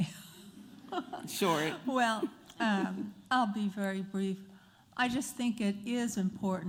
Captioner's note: laughter